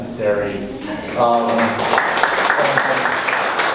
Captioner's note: audience applauds